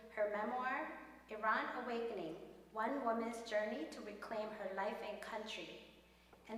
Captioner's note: none